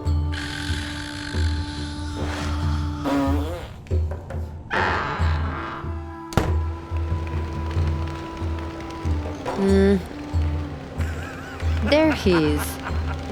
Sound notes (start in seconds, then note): 0.3 snoring; 3.0 fart